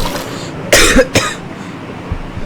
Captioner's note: Yes, this is the Minecraft water splash sound; Cosmic coughs loudly